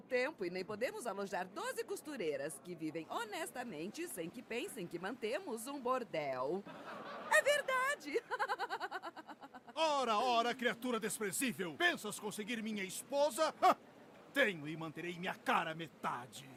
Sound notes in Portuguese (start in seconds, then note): 6.6 risadas